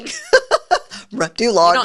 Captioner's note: laughs